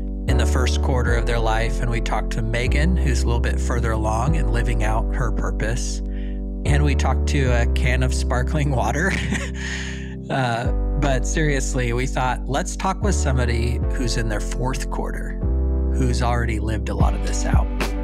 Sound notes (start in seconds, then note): 8.8 chuckles